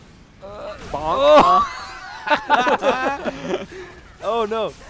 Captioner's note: laughter